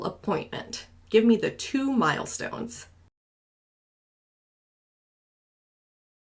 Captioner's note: silence